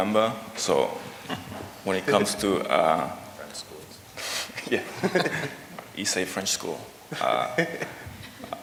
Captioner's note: laughter